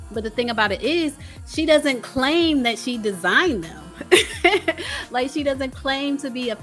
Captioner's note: laughs